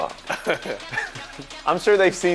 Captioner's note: laughs